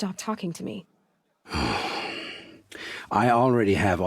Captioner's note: sighs